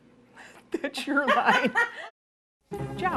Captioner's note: laughing